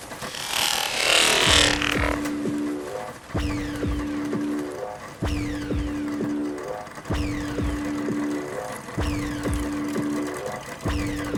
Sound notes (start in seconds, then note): 0.5 vibrating noise